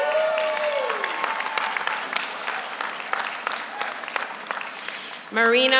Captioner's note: audience cheers; audience applauds